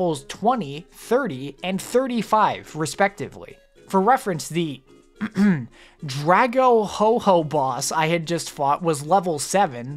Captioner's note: clears throat